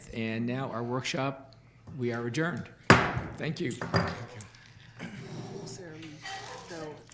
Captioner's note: gavel banging